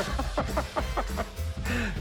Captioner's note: Rick laughs